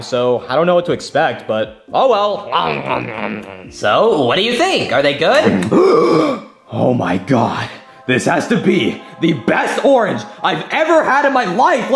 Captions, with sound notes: so I don't know what to expect, but oh, well. (chomping) - So what do you think? Are they good? (Mario gasps) - Oh my God, this has to be the best orange I've ever had in my life.